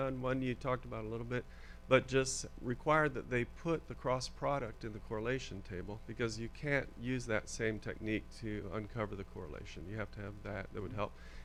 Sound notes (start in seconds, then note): none